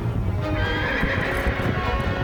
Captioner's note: echoed horse whinny